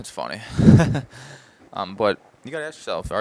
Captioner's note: laughs